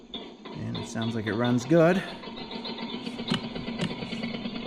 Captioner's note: engine start sound effect